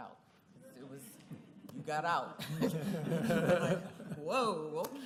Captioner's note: laughter